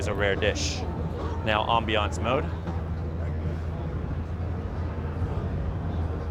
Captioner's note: people chattering